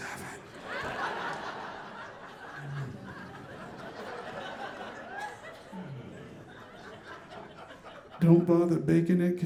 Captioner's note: audience laughing